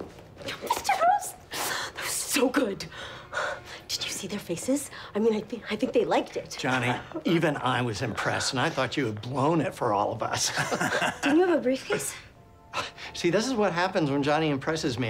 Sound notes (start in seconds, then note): 10.4 chuckles